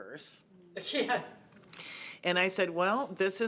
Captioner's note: laughing